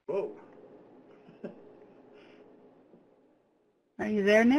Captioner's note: laughs